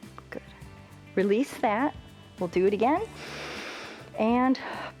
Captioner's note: inhales